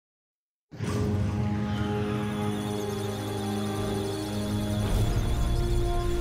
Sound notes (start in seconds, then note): 1.6 musical tones; 1.9 electric sounds of data